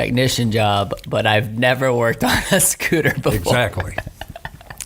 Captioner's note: laughing